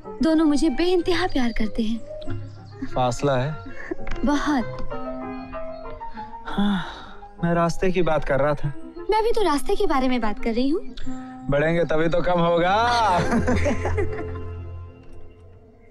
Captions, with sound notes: They both really love me. Some distance, huh. - A big one. [Sighs] I was talking about how long it's going to take to get there. So was I. It's only shorten by advancing. [Laughs]